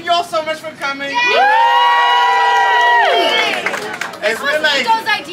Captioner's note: crowd cheers